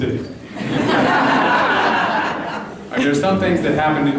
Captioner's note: laughter